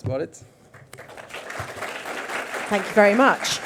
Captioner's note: audience claps